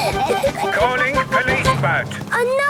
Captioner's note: George snorts; giggles